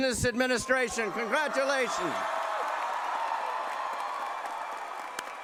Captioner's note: cheering and applause